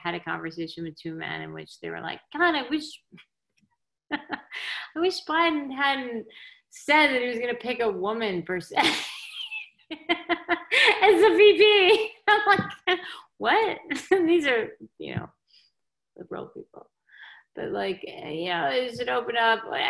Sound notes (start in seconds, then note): 9.9 laughing